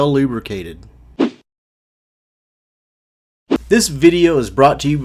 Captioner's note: whoosh